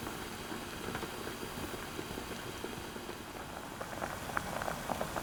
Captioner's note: boiling sound